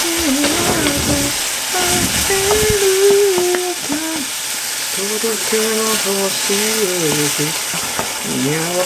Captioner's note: laughs